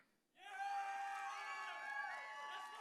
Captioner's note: audience cheering